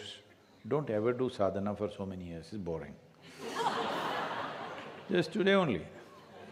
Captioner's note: laughter